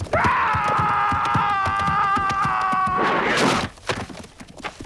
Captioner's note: raider yells; sword slices